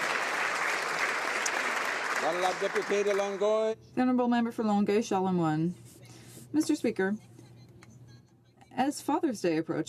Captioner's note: some Applause